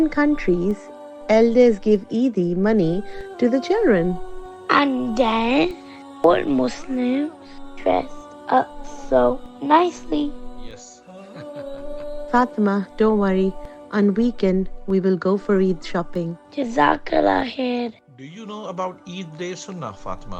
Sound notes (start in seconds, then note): 11.1 laughing